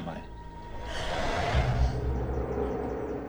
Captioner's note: gasping